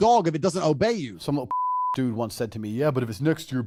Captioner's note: beep